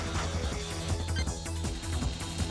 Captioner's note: none